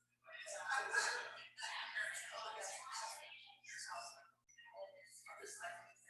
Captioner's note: people chattering indistinctly